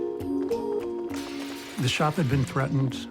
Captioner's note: glass shattering